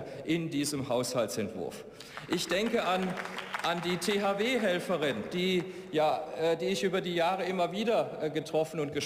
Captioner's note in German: Beifall